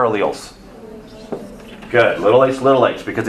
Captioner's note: students murmur answer